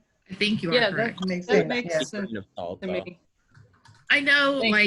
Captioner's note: group chatters